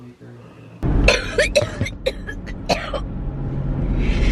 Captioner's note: coughing